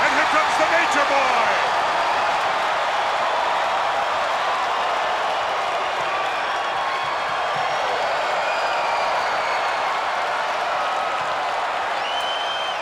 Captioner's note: applause